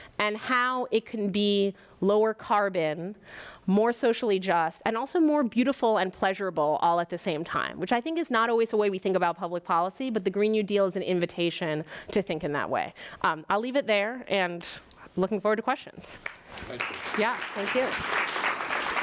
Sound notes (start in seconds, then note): 16.2 audience claps